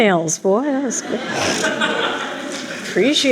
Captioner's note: laughter